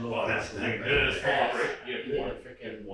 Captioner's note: installers chattering